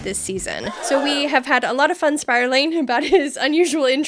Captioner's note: shocked gasp